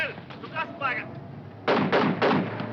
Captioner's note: shouting foreign language; guns firing